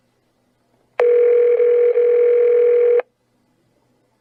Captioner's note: phone rings